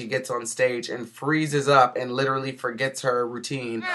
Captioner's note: booing